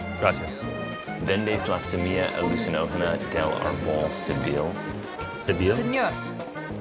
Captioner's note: speaking Spanish